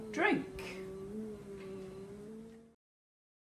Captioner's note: groans